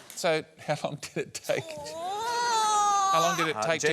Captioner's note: groans